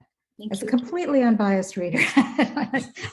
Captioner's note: laughs